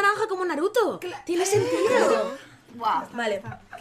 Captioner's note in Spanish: risas